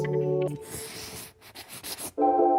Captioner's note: pen scribbling; bright music continues